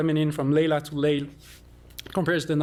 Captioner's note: non-english